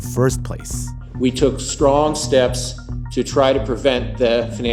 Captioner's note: soundbite of archived recording